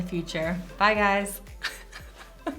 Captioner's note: laughing